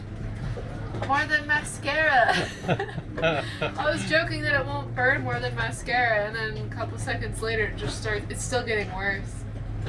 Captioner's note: laughing